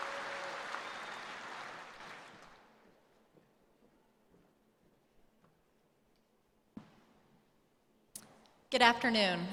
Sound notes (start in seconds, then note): 2.8 applause